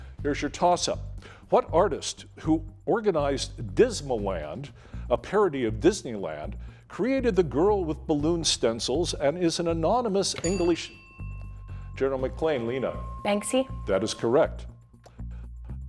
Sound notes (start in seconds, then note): 10.3 bell dinging